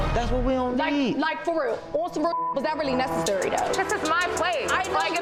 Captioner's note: beeps